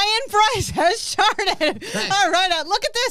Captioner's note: laughs